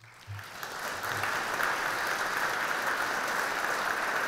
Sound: audience clapping

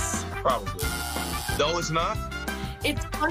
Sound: buzzer sounds

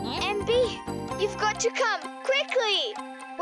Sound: clock ticking

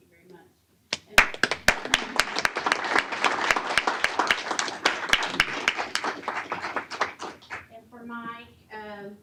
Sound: applause

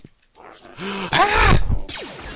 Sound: gasps

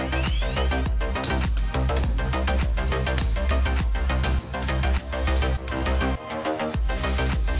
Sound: several torque clicks; background music swells

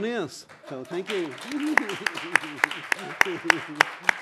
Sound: applause

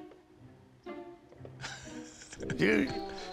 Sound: chuckles

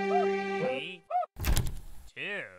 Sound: door Opens

